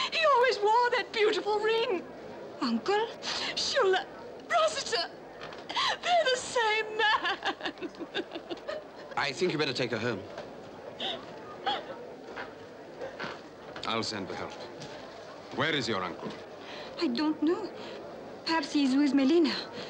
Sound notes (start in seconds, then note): 5.6 sniffles; 5.7 sobbing